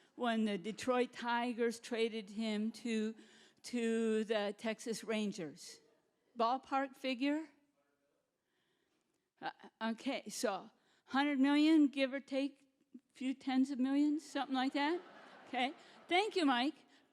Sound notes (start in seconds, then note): 14.7 audience laughing